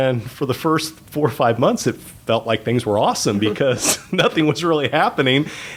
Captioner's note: chuckle